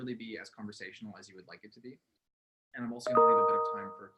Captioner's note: chime drowns out speech